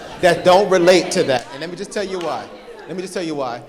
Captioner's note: audience laughing